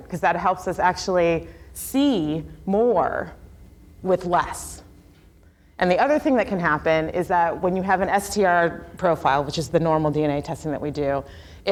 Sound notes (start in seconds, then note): none